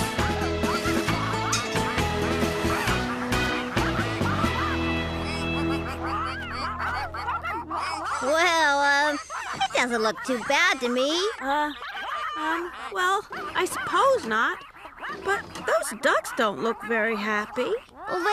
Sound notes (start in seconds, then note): 0.7 ducks Quacking